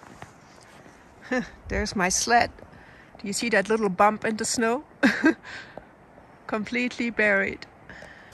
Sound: laughs

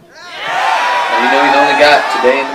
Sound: applause

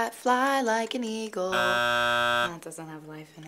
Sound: buzzer buzzes

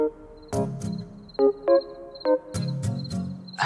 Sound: insects chirping

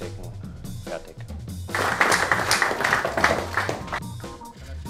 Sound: clapping

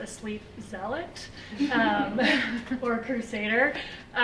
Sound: laughter

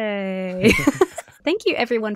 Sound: both laugh

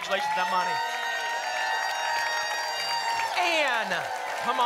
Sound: applause and cheering

